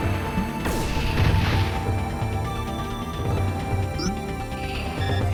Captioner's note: explosion blasts; electronic beeping